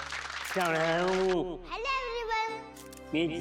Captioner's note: Golu talking gibberish